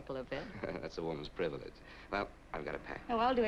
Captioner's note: chuckles